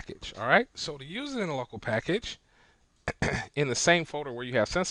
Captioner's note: clearing throat